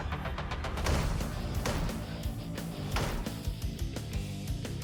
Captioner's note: pounding